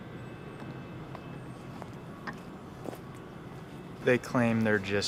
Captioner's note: çatırtı bırakır